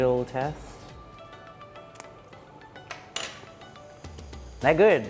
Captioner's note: upbeat music; metal clanking